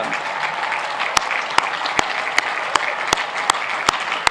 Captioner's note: applauding